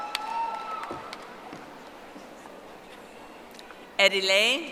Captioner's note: audience applauding